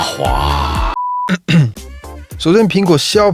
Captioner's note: cough